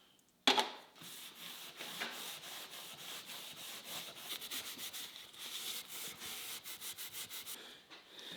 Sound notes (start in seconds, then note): 1.0 wood scratching